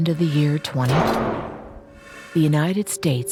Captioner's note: object thudding